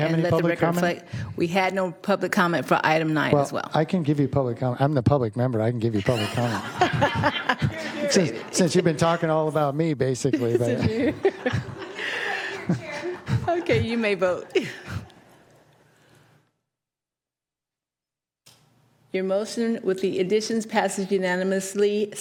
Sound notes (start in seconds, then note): 14.9 laughter